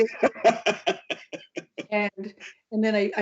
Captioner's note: laughs